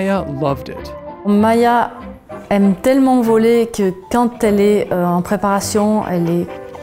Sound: speaking in a foreign language

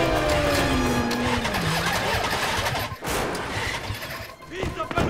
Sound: engine stalling; speaking foreign language

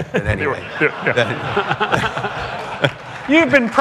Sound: laughter

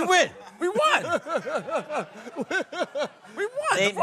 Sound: laughing

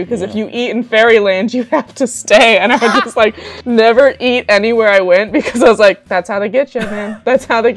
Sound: laughter

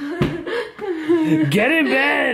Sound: laughs

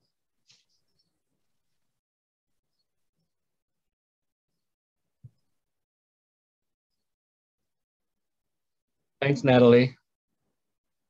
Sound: Silence - Smudge ritual continues

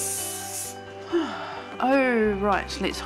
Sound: hair spray hisses; sighs

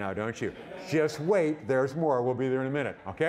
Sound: audience laughing

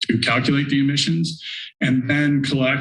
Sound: inhales

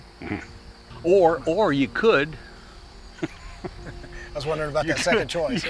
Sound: laughing

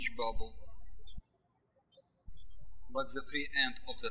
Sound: birds chirping

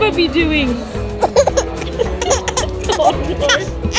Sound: laughs

